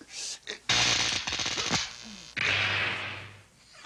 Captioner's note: electrical crackling